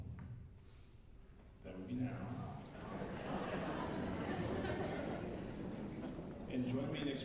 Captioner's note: laughter